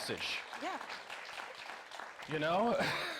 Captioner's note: audience applauding